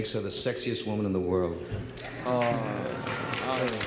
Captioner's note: applause